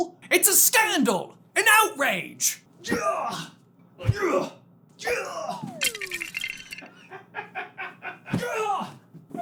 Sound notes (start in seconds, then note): 5.2 items clatter to the floor; 7.0 giggling in the background